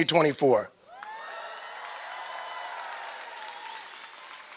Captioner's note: applause